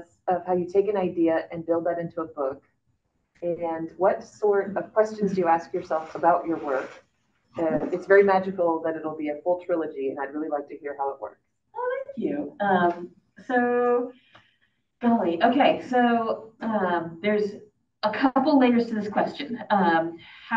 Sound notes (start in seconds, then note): none